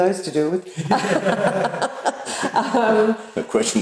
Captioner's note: all laugh